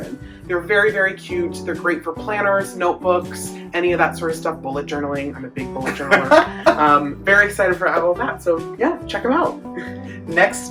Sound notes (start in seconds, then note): 6.0 laughs